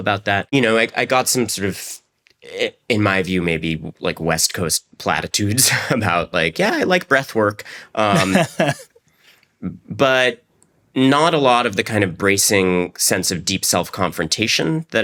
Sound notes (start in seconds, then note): 8.1 laughs